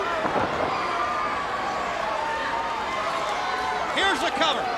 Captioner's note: wrestlers thudding on ring